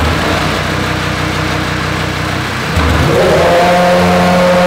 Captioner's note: engine noise